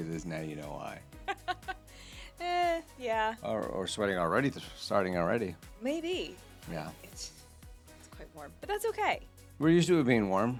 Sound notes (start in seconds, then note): 1.2 laughing